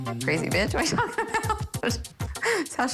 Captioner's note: laughs